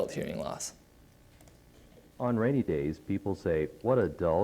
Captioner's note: computer, even louder